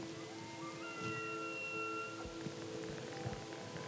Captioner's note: elk bugles